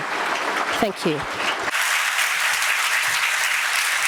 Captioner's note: applause